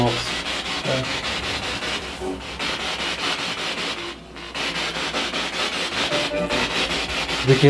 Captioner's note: radio noise from the spirit box